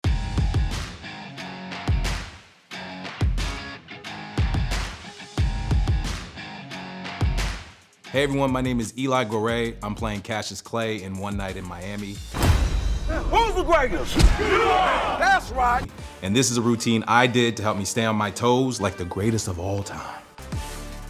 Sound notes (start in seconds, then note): 1.2 upbeat music; 14.1 crowd; 20.9 upbeat theme music